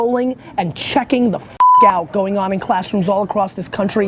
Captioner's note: beep